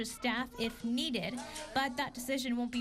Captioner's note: nat pop - kids